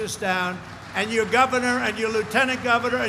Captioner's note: applause